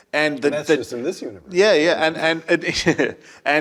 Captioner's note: laugh